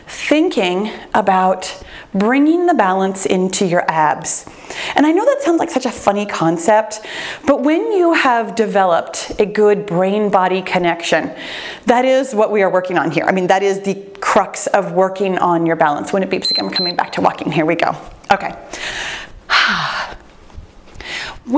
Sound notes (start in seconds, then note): 16.4 timer beeps; 18.6 breathes deeply